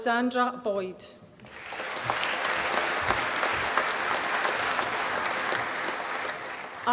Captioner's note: applause